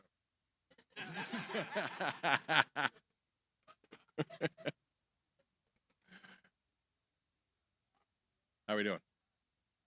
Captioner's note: laughter